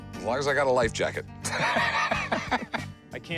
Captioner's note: laughs